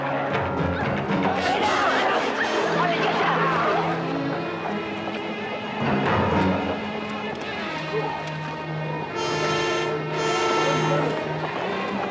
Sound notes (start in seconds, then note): 1.2 crowd clamoring